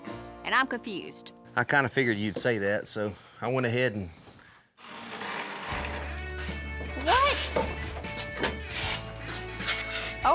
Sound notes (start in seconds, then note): 4.8 creaking sound